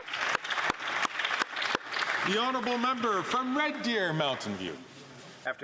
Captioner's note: some Applause